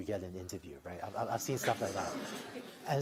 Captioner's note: laughter